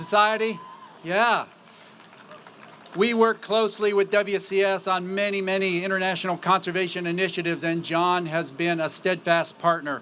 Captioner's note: applause